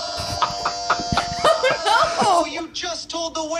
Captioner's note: laughing